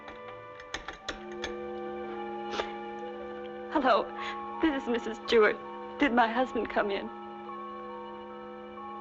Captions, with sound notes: (receiver rattling) Hello, this is Mrs. Stewart. Did my husband come in?